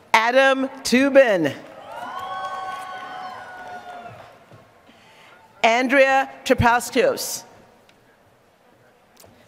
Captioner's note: applause